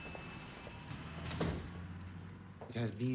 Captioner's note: bell dings; door closes